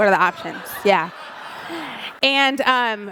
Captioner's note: audience laughs